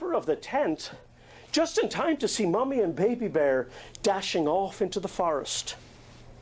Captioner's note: none